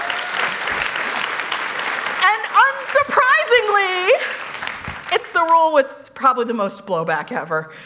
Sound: cheers; applause

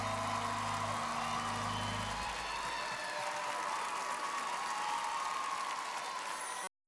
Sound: cheers and applause continues

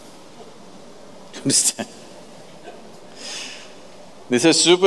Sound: laughs

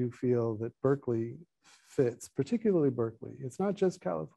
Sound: none

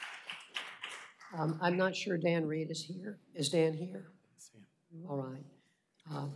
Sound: applause

